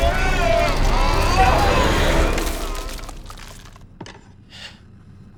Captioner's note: crackling; Tim gasping